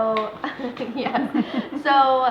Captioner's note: laughs; laughing